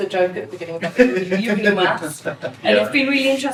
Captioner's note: laughs